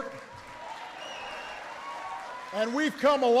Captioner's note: applause